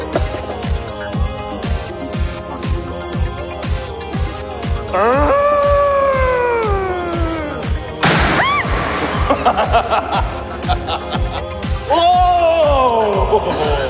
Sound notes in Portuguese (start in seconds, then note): 4.9 grita assustado; 8.1 grita